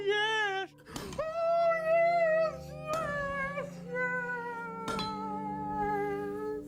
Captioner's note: hammer thudding